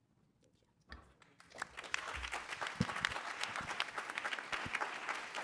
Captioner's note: applause